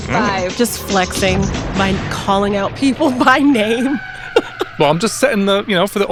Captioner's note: chuckles